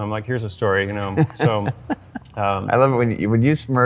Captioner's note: laughs